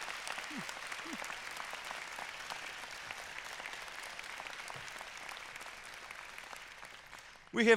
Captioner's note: cheers and applause